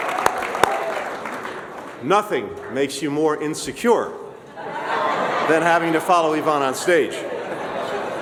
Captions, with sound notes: Nothing makes you more insecure – (laughter) – than having to follow Yvonne on stage.